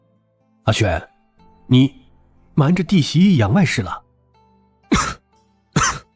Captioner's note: cough cough cough